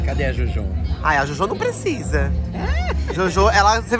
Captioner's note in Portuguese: risos